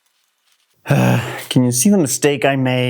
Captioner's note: frustrated sigh